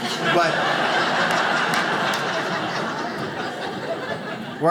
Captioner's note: audience laughs